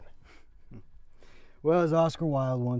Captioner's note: chuckles